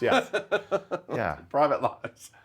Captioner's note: laughing